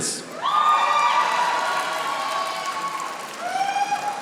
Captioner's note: audience applauding